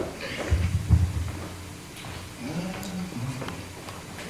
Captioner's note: humming softly